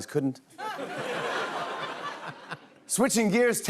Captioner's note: laughter